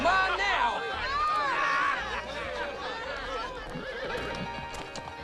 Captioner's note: crowd laughing; horse nickers